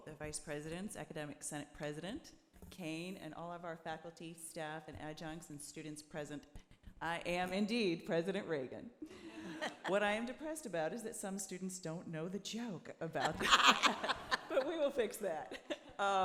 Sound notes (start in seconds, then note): 9.3 audience laughing; 13.2 audience laughing